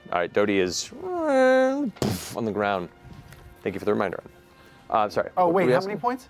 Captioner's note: creak, impact